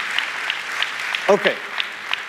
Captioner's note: applause